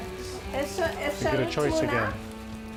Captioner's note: speaks in foreign language